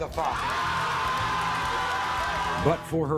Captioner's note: crowd cheering